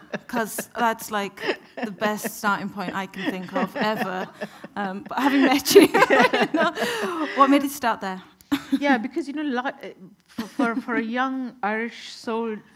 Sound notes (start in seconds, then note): 0.0 laughing; 6.4 both laughing